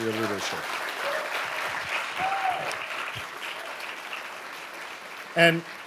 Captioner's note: audience applauding